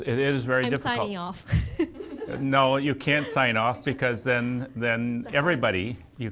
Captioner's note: laughs